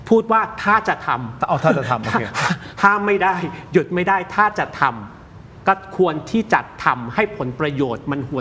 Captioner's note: laughter